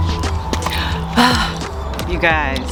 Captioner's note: sighs